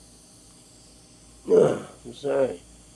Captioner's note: groaning